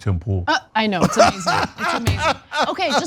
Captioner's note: laugh